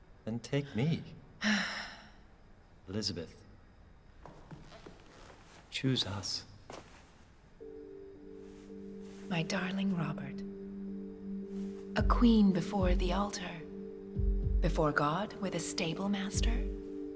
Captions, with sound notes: then take me. [sighs] Elizabeth... choose us. My darling Robert. A queen before the altar, before God, with a stable master?